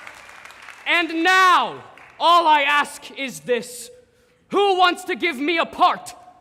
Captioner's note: applause